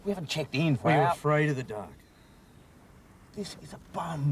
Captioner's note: none